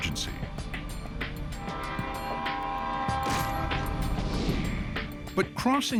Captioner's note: train horn blaring